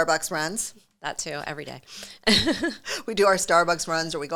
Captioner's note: laughs